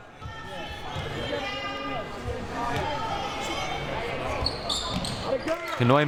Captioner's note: audience chattering and yelling